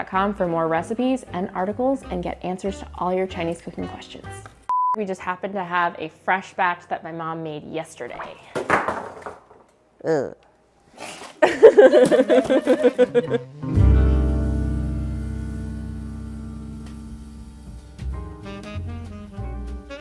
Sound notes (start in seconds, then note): 8.6 clattering; 11.0 laughing